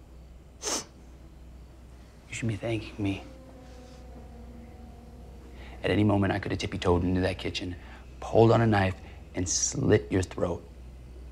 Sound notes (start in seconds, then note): 0.6 Tyler sniffs; 3.9 tense music; 11.1 crickets chirping; 11.1 tense music